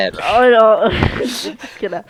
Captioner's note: awkward Laughter